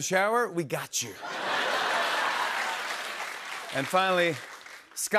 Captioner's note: laughter and applause